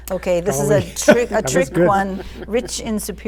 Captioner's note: laughs